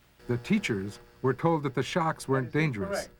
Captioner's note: voiceover